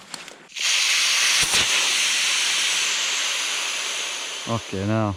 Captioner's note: paddleboard deflating